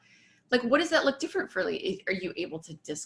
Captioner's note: voice muffled